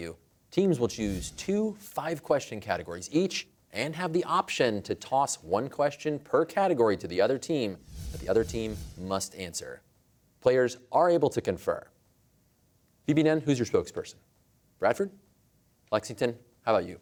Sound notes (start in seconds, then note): none